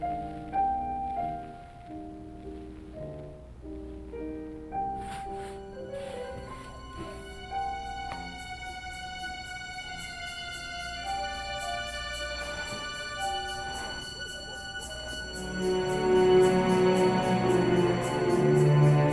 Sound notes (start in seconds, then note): 5.5 suspenseful music; 5.5 window scraping